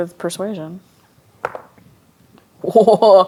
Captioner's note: dice rolling